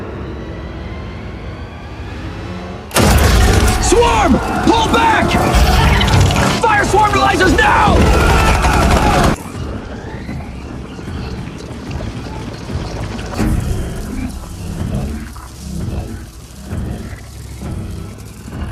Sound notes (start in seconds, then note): 1.0 strange humming noises